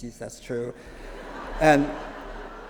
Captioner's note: laughter